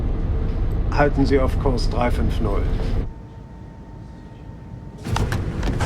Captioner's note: speaking foreign language